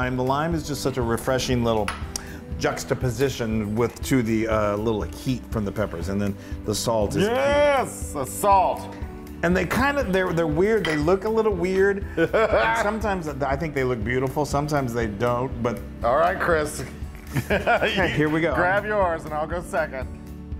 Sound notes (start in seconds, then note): 12.2 laugh; 17.2 laugh